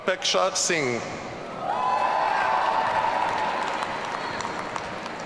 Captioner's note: audience cheering